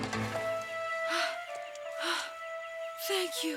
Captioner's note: Jane breathes heavily